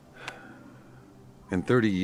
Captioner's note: Chuck sighs